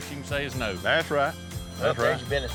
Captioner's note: cell phone rings